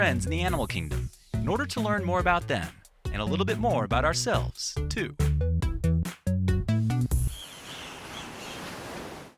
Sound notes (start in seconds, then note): 5.4 light music; 7.2 birds chirping; 7.4 waves crashing